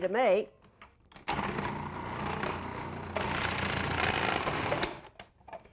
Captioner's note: food processor whirring